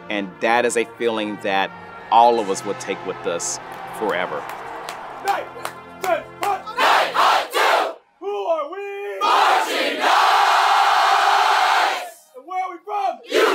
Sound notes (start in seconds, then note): 4.0 clapping and chanting